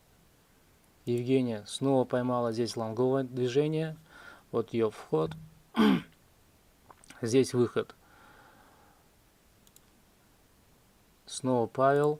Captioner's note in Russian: откашливается